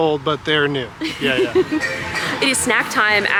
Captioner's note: laughs